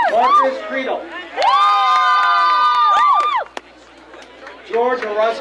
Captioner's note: crowd cheering